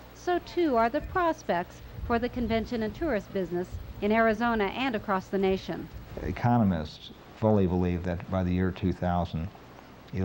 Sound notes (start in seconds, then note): none